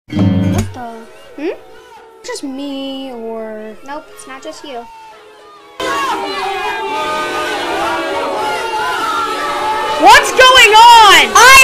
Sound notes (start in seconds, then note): 1.6 screaming noises from Freesound.com; 5.8 way louder screams from Freesound.com